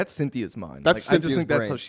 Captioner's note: laughs